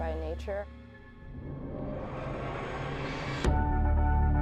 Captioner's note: whooshing; upbeat music